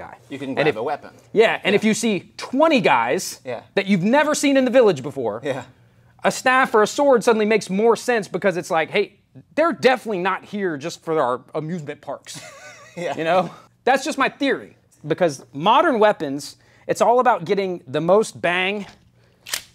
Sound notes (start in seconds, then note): 12.4 laughs